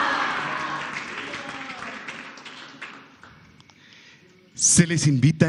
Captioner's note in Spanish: aplausos